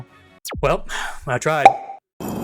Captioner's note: sigh